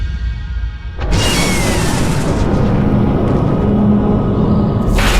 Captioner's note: suspenseful music continues; blast whooshes